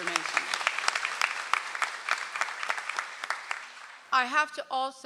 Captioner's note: audience applauds